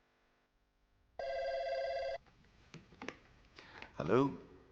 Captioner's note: phone ringing